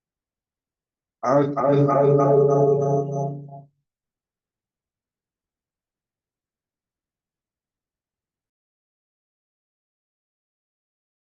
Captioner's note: feedback echo